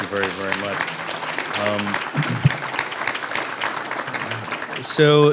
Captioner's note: aaplause